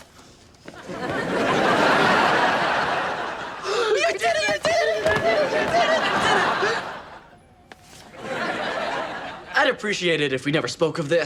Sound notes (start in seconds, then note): 0.6 audience laughs; 6.5 gasps; 8.0 audience laughs